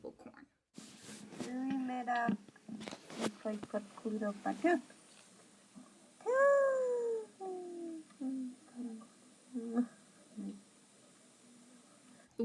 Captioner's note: Suyá woman speaking